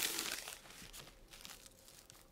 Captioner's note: rustling